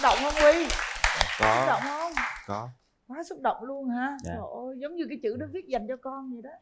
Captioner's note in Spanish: Aplaudir